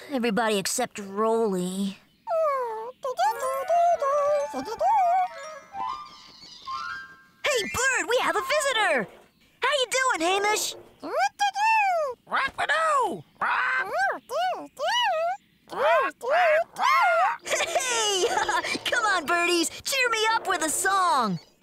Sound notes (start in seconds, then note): 12.6 imitating Bird; 17.2 chuckling